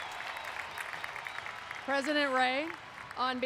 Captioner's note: applause